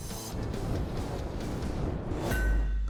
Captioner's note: metallic clang